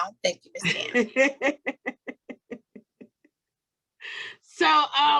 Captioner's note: laughs